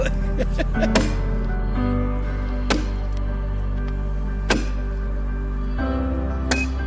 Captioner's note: laughs; pensive music continues; tool banging